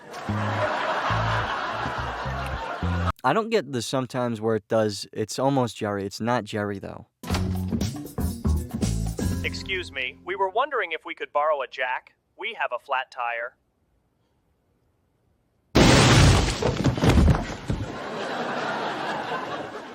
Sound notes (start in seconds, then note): 0.0 laugh track; 15.7 boom; 17.8 laugh track